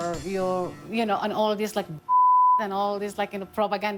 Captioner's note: beep